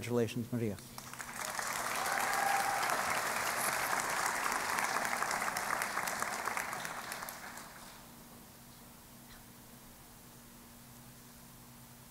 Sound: applause

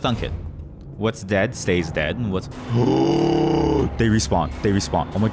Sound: terrified, long gasp

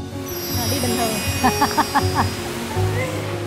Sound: happy laughter

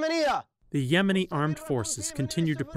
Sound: through translator

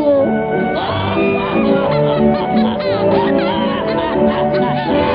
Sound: laughs

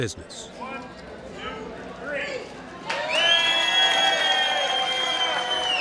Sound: crowd cheering and clapping

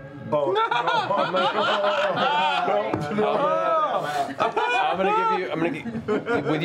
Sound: laughter and yelling

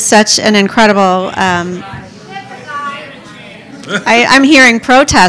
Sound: crowd mumbling

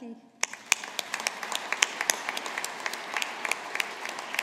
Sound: audience applauding

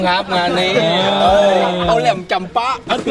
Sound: mocking

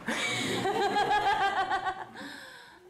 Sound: laughter

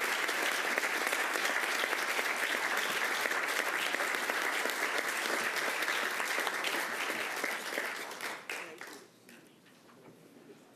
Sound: applause

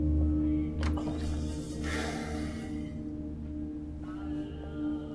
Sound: door closing

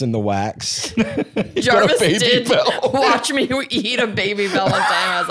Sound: laughing

